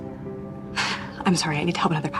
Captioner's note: sighs